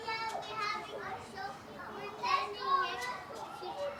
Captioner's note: indistinct chatter